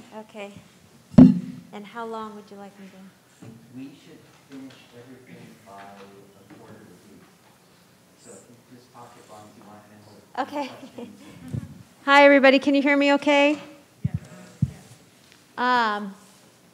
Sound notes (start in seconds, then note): 8.7 speaking faintly